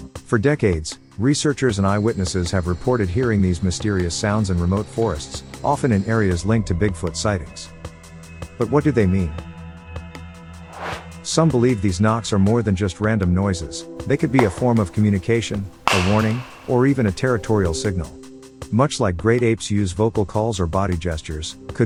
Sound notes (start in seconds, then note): 14.1 knock whacks